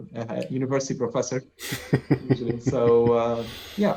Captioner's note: laughter